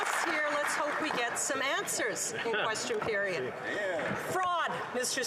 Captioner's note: applause